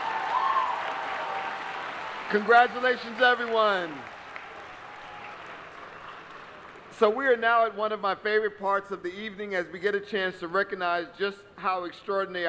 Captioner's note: applause